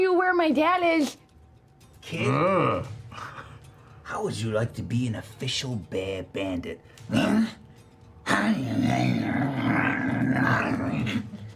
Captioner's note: bear sounds